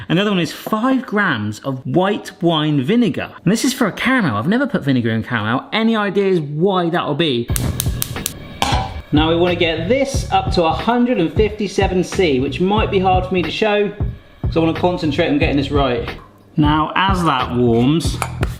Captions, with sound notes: Another one is five grammes of white wine vinegar. And this is for a caramel. I've never put vinegar in caramel. Any ideas why that will be? (igniter clicking) Now we wanna get this up to 157 C which might be hard for me to show, so I wanna concentrate on getting this right. Now as that warms,